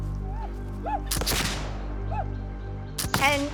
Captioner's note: gunshot